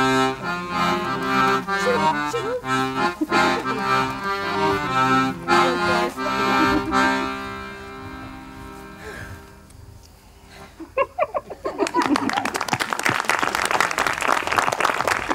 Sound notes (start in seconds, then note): 10.6 giggles; 11.8 applause